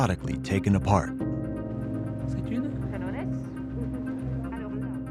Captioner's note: talking in background